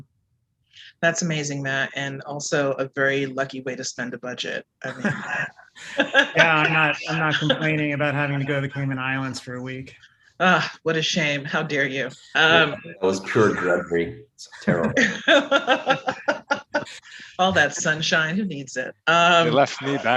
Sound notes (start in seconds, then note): 4.8 laughter; 14.5 laughter